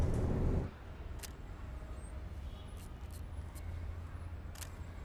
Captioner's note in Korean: 버스안, 버스가 달리며 웅웅거린다; 찰칵. 남자가 일회용 카메라로 사진을 찍는다. 그리고 필름을 감는다; 찰칵